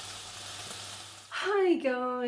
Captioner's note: sizzling